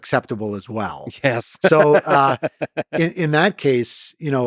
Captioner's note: laughs